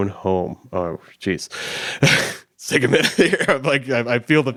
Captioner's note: chuckles